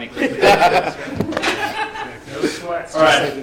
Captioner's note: laughs